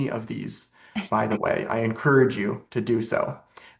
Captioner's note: laughs